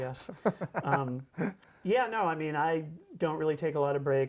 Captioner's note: laughs